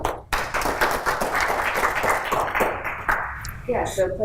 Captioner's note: applause